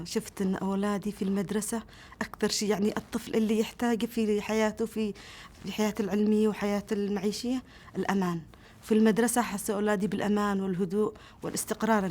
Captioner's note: speaking Arabic